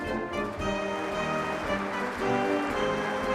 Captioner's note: applause